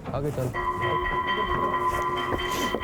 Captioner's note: bell ringing